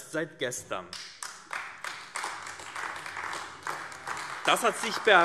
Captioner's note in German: Beifall AfD